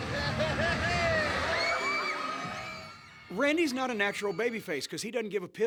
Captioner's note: laugh